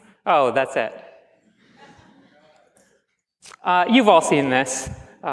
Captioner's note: laughs